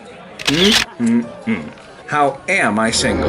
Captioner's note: camera shutters